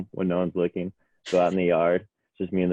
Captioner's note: teammates laughing